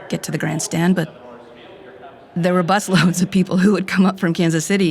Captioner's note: laughing